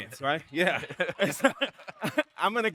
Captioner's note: both laughing